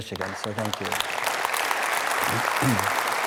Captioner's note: applause